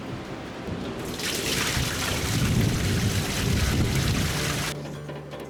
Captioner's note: water splashing